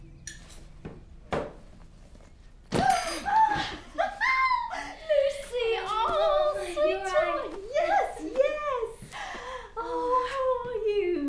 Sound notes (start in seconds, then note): 3.1 Lucy laughing